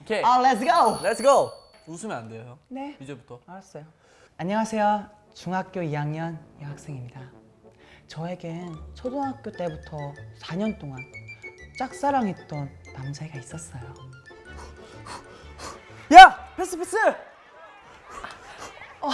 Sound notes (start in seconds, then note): 14.5 panting